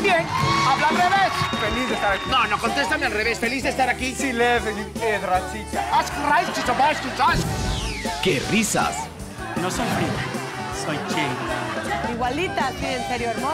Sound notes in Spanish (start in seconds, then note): 3.9 Habla al revés; 5.2 Habla en otro idioma